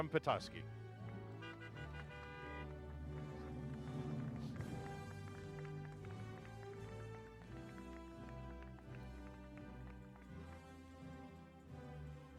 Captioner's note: applause